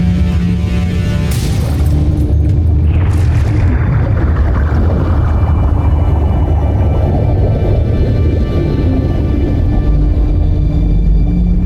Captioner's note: mystical music playing; music fades; swirling